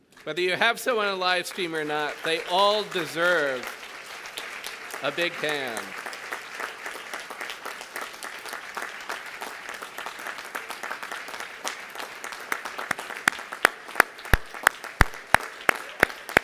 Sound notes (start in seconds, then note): 5.9 applause